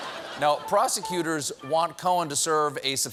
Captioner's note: laughter